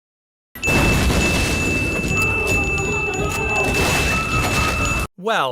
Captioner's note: cacophany of annoying dings